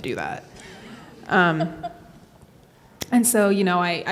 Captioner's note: laughs